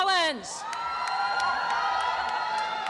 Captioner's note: applause and cheering